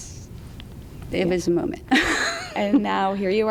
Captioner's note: laughs